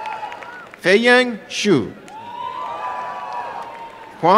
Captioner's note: applause and cheering